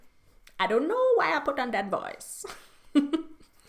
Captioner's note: she laughs